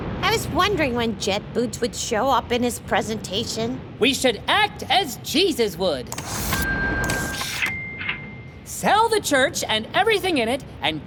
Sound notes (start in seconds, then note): 7.6 dinging